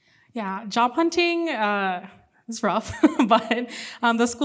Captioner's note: laughs